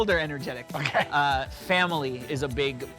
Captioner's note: laughter